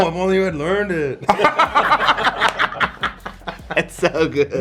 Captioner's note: laughing